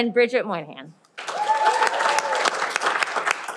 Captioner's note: cheering